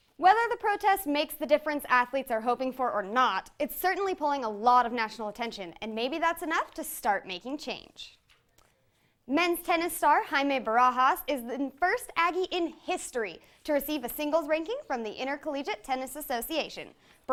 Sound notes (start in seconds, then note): none